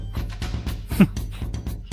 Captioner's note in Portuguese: bufa